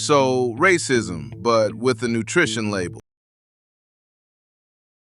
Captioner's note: flatly